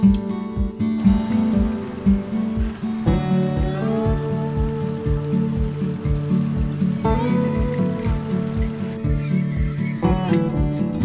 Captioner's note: rain; metal noise